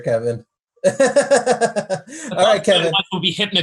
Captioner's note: laughs